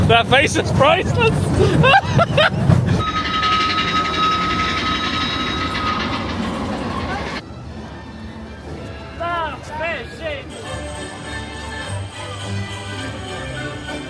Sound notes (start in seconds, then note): 0.0 laughing; 0.9 laughs; 3.0 horn toots; 3.4 train chugging